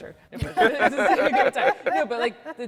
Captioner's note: all laughing